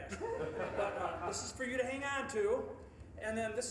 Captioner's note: audience laughing